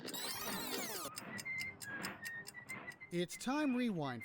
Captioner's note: whistling